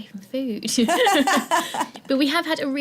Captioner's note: laughing